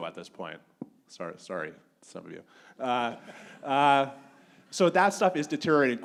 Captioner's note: audience laughing